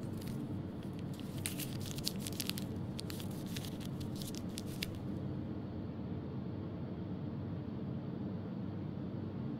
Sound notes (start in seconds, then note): 0.0 paper being folded